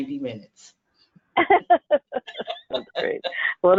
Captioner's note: laughter